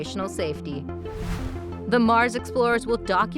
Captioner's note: whooshing